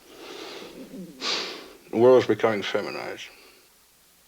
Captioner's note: sighs